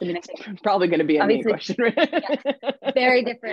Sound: laughs

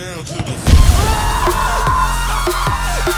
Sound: screams

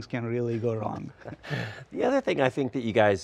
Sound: both laugh

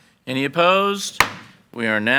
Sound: gavel bangs

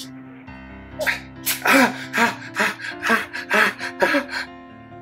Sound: gasps; heavy breathing

